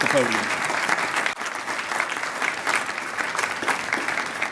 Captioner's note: applause